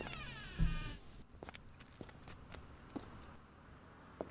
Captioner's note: door open